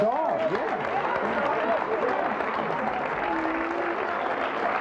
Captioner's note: audience applauds